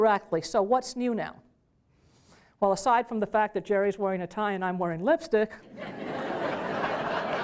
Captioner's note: applause